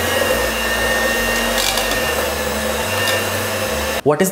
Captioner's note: whisk whirring